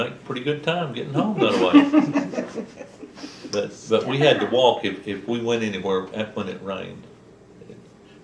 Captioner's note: laughter